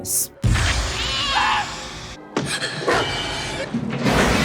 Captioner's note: screams